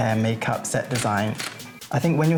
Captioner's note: camera shutter clicks